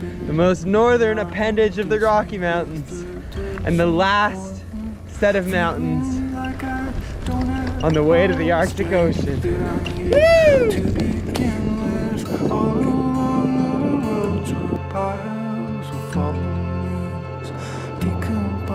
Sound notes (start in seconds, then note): 11.8 wind blowing; 14.9 thoughtful guitar music